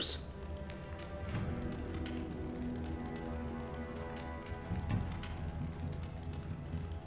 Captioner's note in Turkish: Ateş çıtırtıları sesleri